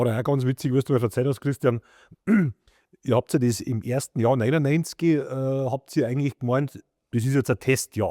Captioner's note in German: räuspern